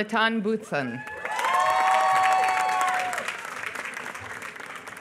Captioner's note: applause